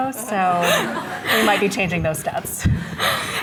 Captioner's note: audience chuckling